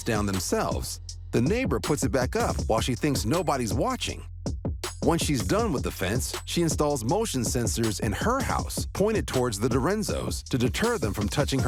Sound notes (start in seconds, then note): none